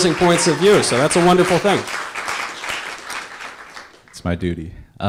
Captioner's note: audience applause